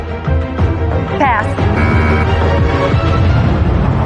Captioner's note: buzzer sounds